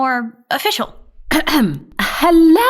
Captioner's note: clears her throat